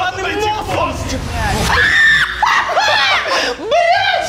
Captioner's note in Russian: крик